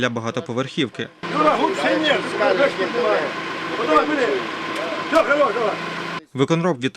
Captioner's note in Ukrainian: Звук екскаватора